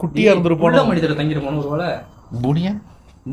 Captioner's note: none